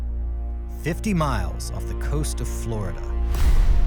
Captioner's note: voiceover